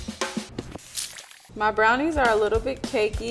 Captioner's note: upbeat music; splatter